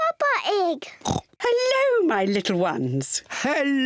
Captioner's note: oinks